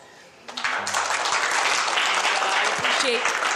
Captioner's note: audience applauding